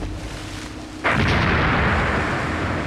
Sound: boom

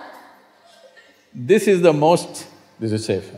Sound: laughter

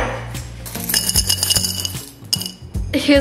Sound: coins clicking

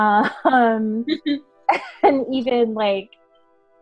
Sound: all chuckling

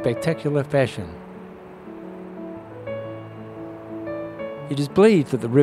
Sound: waterfall sounds and music background

